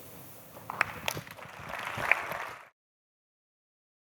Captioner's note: applause